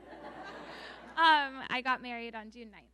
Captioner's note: audience laughing